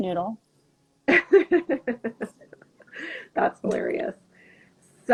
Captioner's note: laughing